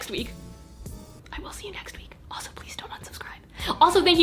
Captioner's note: whispers